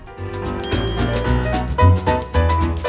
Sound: chime dings; whimsical piano music

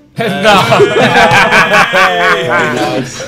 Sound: cheers

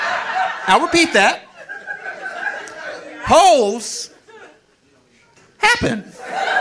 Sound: audience laughing

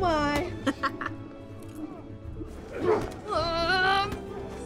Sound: laughing

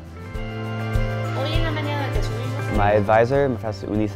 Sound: professor speaking Spanish

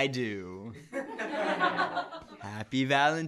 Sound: laughter

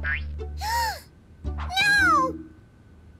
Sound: gasps

